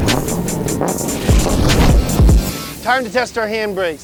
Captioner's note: car engine revving